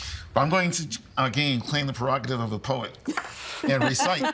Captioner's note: laughing